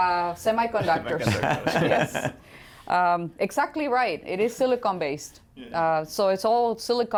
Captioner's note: laughter